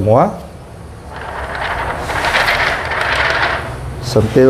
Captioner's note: PET film noise